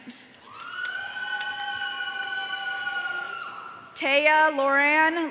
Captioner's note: audience cheering